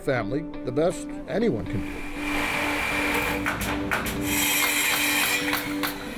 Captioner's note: construction drilling